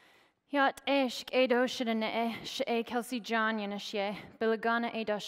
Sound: speaking foreign language

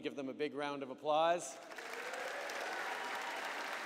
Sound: applause

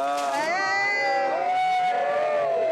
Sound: all cheering

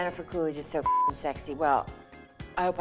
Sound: beep

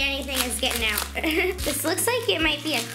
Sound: laughing

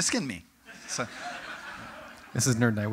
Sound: audience: Laughter

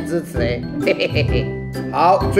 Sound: laugh

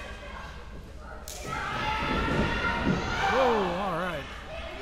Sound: crowd yelling

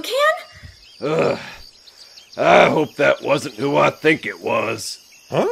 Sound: sigh

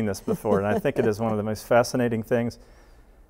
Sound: laughs

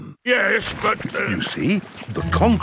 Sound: stutters

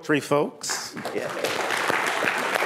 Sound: applause

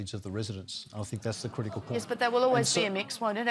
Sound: audience groans

